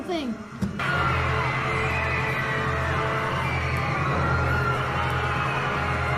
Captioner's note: all screaming